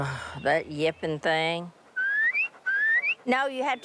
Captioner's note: whistle